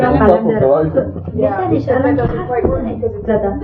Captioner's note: speaking in Farsi